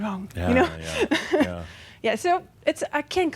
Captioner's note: she chuckles